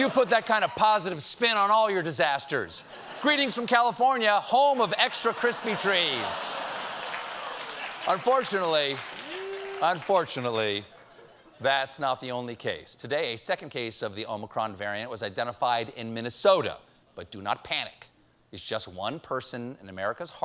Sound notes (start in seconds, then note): 10.0 applause; 11.0 laughter